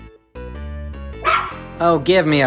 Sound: dog bark

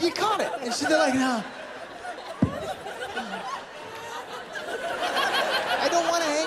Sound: laughter

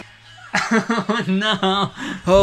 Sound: laughing

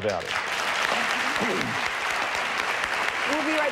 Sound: audience applauding

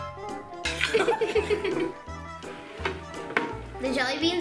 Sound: upbeat music; giggles

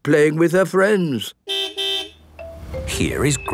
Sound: car beep

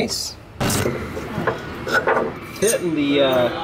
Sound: static

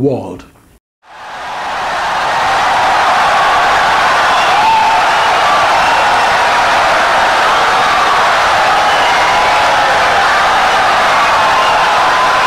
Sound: wild applause and cheering for 17 seconds

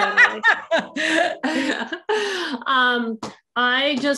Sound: laughter

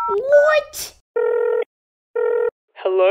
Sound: dialling

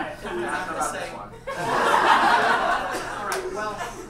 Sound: audience laughs

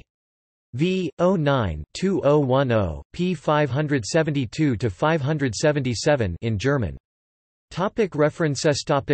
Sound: in German

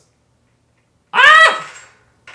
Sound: screams

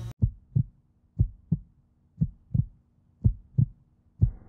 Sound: heart beating

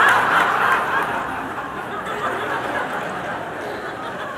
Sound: laughter

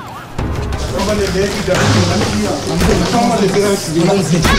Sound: commotion

